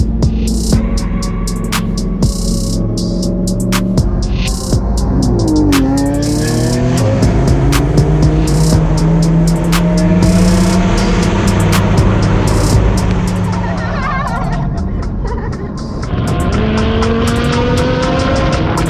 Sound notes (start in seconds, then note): 5.9 engine roaring; 13.6 laughter; 16.7 engine roaring